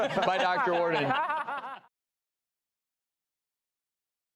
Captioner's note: laughing